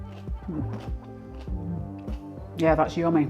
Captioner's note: crunch